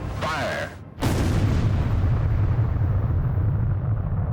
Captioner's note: explosion